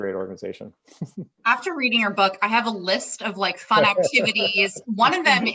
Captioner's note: laughs